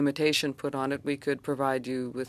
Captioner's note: speaking French